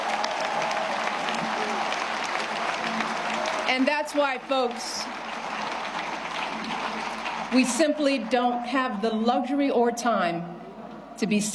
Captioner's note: cheers and applause